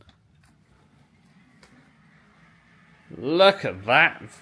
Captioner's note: sheers whirring